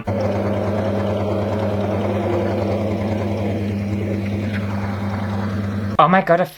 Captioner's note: sewing Machine Motor